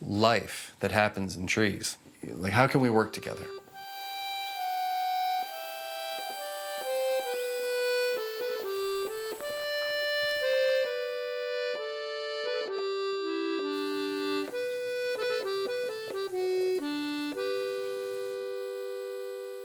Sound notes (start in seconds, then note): 3.8 cicadas humming; 3.8 peaceful music; 15.1 peaceful music continues